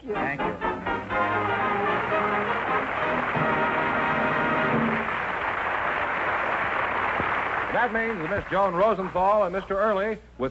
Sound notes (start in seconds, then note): 0.7 music & applause; 4.9 applause